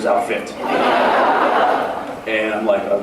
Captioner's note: laughs